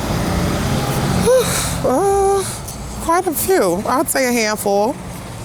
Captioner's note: sighs